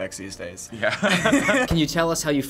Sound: both laugh

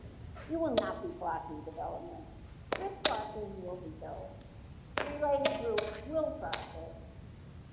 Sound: interfering sound

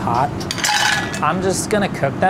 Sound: clams clanging

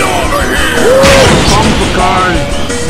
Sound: boom

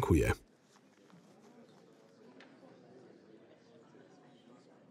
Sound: audience chattering

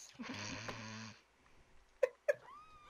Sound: more Laughter

